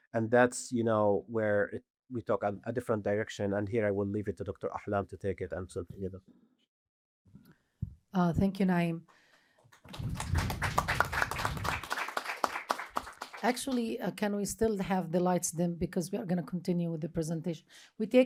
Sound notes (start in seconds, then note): 9.7 applause